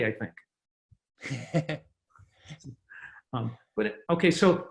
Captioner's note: laughing